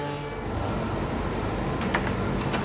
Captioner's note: loud roar